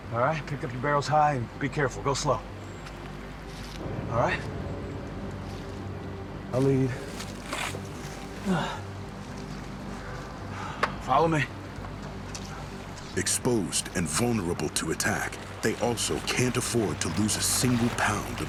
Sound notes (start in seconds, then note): 8.4 grunt